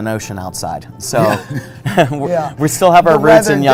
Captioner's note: laughs